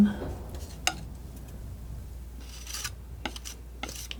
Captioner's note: metal scraping